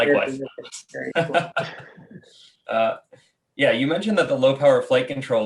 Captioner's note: laughs